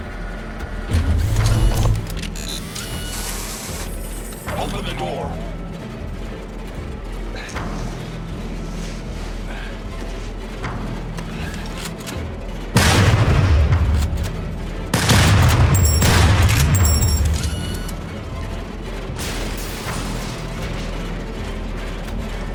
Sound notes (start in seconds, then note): 0.8 robot whirring; 12.9 gunshots blasting; 19.4 suspenseful music